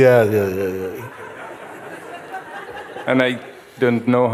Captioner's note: Lachen